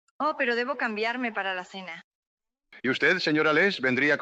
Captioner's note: in spanish